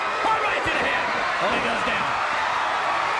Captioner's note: crowd cheering